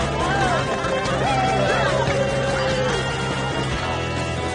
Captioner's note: group laughs and cheers